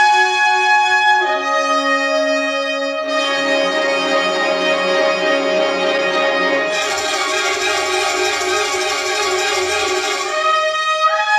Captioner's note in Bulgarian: аплодисменти